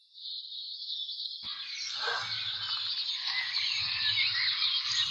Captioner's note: birds chirping